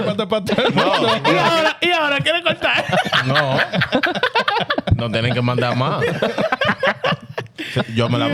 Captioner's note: laughing